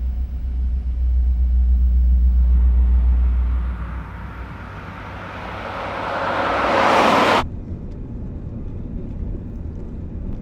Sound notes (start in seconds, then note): 3.0 SUV engine revving